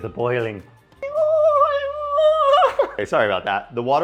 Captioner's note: imitates boiling water